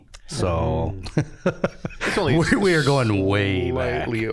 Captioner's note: chuckling